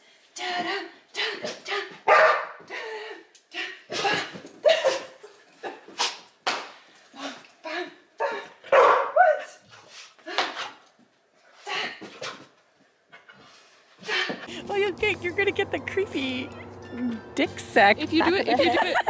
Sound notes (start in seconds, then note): 0.3 lady imitating music; 2.0 Griffy barking; 4.6 laughing; 8.7 Griffy barking; 18.2 laughing